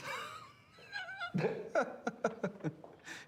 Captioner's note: laughs